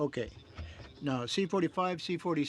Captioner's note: speaking French